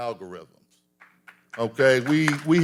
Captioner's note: audience applauding